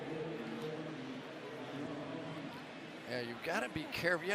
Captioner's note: pa announcement